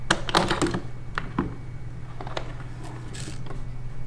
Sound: latch clacks

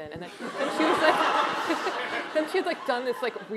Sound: laughter

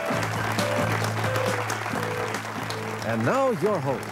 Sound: audience clapping; upbeat music

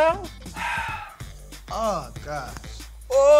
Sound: sighs

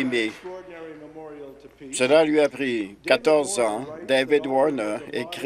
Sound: applause

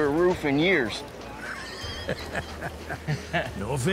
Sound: both laughing

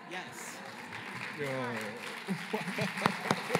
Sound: applause

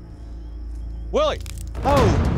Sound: branch cracks

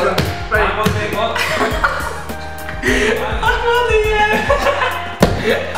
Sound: laughter

